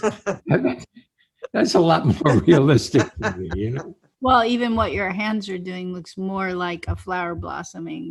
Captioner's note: laughing